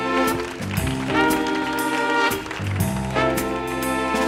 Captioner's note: audience applauding